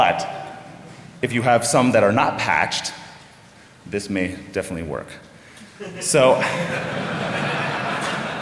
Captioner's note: laughter